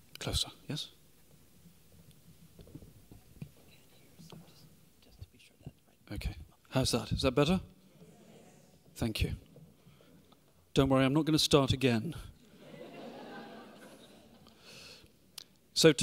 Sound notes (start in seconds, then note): 4.1 speaking faintly; 5.6 speaks faintly; 12.4 audience laughing